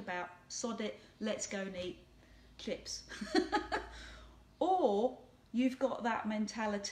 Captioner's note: giggling